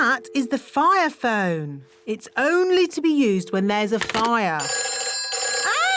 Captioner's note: phone rings